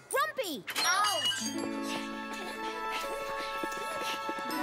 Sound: panting

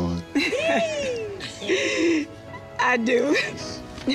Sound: Yandy laughing

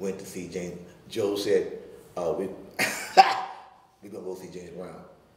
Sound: laughing

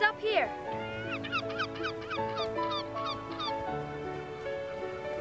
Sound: gulls cawing

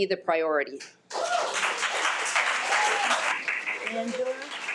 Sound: audience applauding

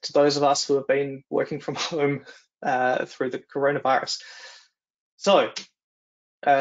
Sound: chuckling

